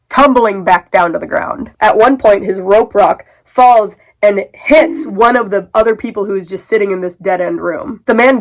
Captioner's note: bonk